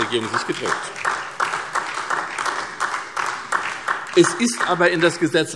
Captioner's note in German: Beifall SPD